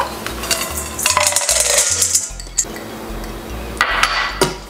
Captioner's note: popcorn clanking